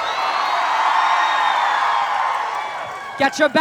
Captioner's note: crowd roars for blood sport